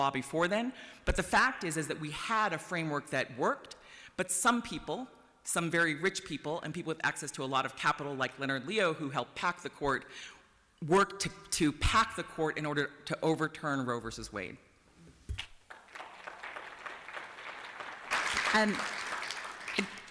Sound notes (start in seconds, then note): 15.6 applause